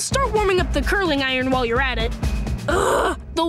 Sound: groaning

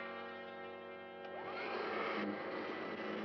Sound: vacuum whirring

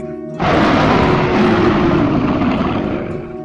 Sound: roaring

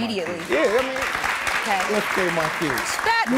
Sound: audience applauding

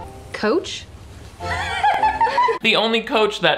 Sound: Sharpay laughs

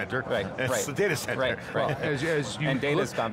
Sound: laughs

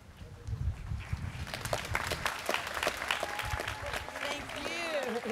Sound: students clapping

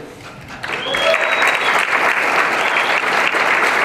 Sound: applause and cheering

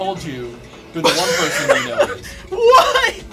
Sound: laughs

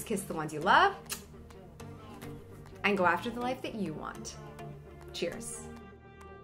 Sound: blowing kiss; lively music

